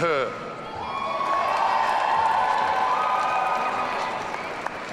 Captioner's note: audience cheering